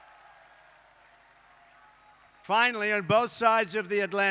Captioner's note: applause